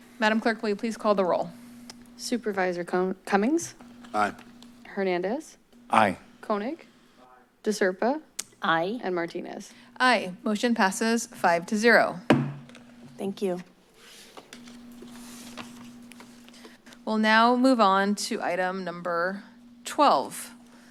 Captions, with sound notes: Madam Clerk, will you please call the roll? - Supervisor Cummings? - Aye. - Hernandez? - Aye. - Koenig? - Aye. - De Serpa? - Aye. - And Martinez. - Aye. Motion passes five to zero. [gavel bangs] - Thank you. - We'll now move on to item number 12.